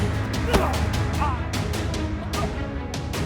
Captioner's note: grunting